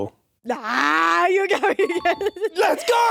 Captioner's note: chuckles